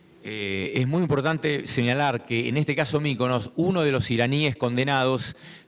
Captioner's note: speaking in foreign language